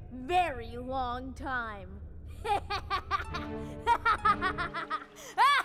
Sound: laughing

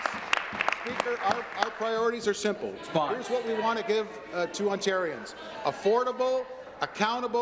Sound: applause

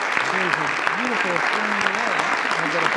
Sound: audience applauds

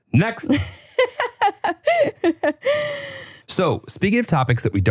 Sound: laughing

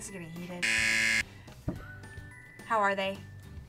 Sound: buzzer rings

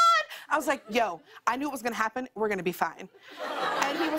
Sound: laughter

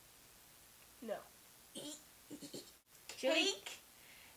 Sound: laughs

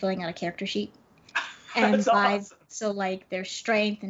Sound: laughs

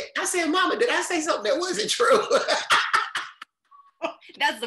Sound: chuckles loudly

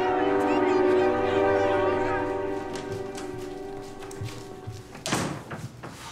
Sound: door opening

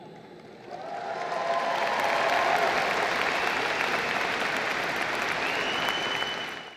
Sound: applause

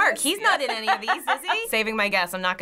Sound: laughs

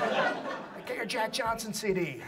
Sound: audience laughs

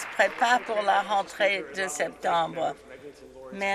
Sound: some Applause

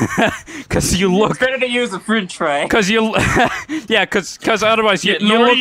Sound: laughing; laughs and stutters

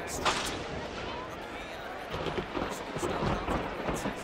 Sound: thunder crackling

